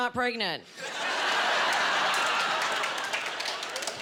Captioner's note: laughing